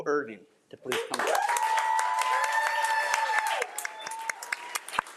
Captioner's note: audience applauding